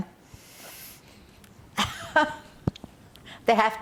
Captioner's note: laughing